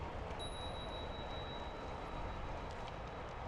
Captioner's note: ding! #3